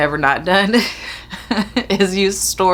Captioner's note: chuckles